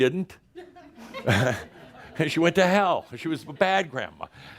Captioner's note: some laughter